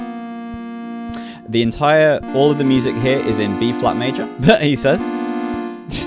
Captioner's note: laughs